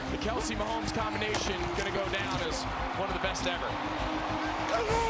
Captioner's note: cheering